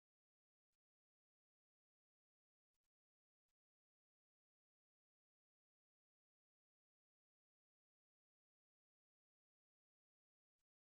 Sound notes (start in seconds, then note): none